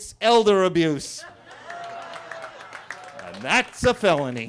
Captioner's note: attendees laughing and clapping